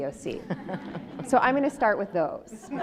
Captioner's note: audience laughs